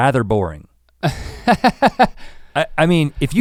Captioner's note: Link chuckles